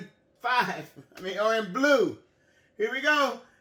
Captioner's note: laughs